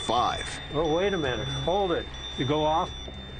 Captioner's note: beeping